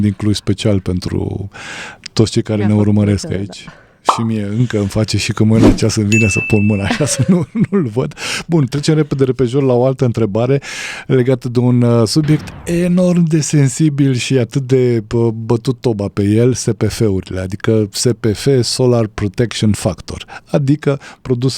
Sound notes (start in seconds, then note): 6.7 laughter